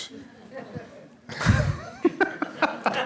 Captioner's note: laughter